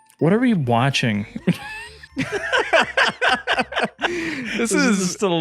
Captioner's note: both laughing